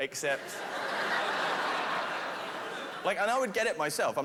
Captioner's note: laughter